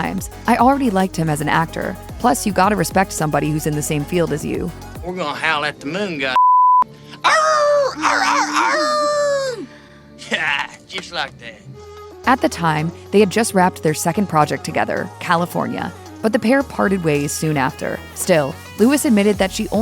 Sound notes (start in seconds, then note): 7.2 howls